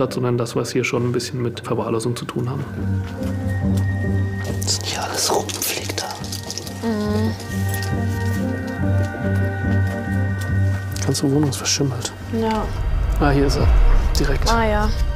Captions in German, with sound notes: sondern dass wir's hier schon mit Verwahrlosung zu tun haben. (flüsternd:) Was hier alles rumfliegt da. Mhm. (Düstere Musik) Die ganze Wohnung ist verschimmelt. - Ja. Ah, hier ist sie, direkt. - Ah ja.